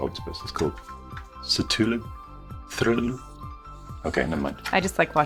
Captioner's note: stutters